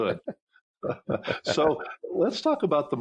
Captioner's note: chuckling